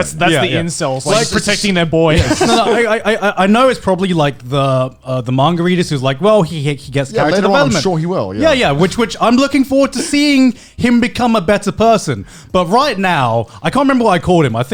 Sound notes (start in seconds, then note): 2.1 laughs